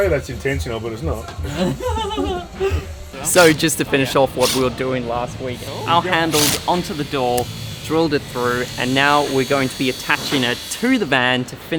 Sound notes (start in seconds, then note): 1.4 laughing; 4.1 drilling